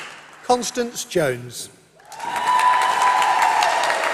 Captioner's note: applause